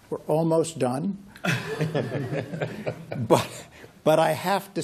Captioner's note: laughter